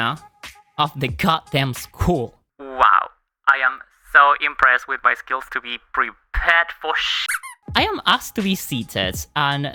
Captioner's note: squeak